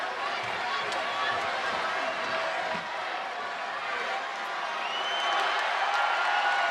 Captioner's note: crowd cheering; crowd whistling